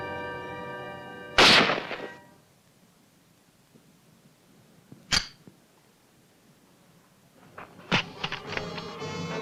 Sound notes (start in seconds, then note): 1.4 gunshot; 5.1 empty gun clicks